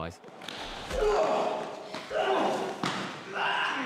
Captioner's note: grunting